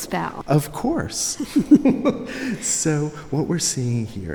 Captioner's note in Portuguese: risos